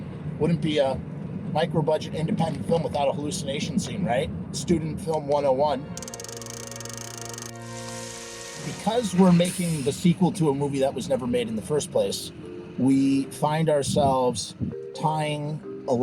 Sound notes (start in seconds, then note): 6.0 cranking Noise; 7.5 sizzling noise